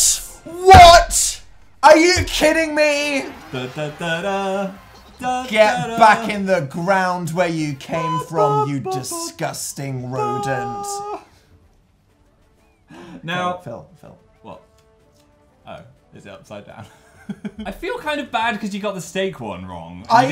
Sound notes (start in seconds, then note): 3.2 celebrating; 13.4 quietly; 17.0 laughs